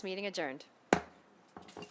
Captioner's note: gavel hitting dais